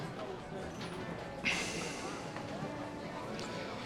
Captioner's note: exhales